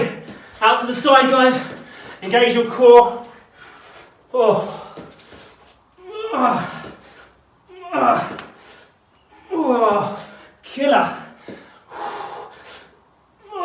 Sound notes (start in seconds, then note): 6.1 grunts; 11.4 exhales sharply